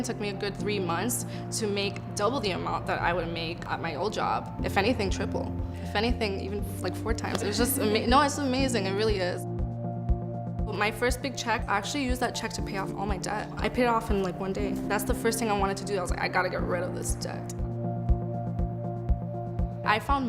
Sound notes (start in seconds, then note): 7.4 laughs